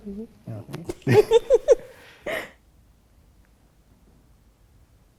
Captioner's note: both laugh